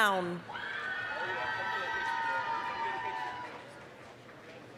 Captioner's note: applause, cheering